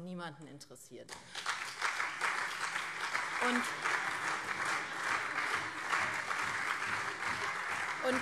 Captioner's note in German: Beifall SPD und CDU